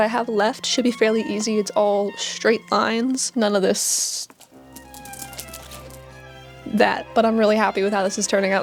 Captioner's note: beads clacking